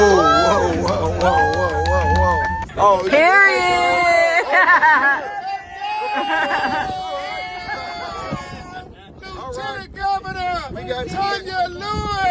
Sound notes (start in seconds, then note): 2.5 cheering; 4.2 laughing